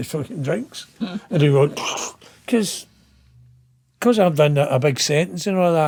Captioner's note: chuckling